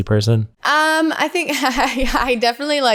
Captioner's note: laughs